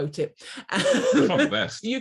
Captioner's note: laughs